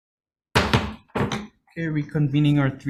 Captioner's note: gavel banging